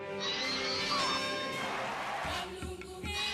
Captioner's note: audience cheering